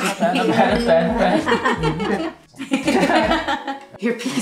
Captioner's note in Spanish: Risas